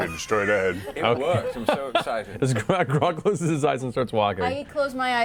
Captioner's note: laughs